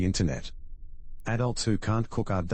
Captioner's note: electrical noise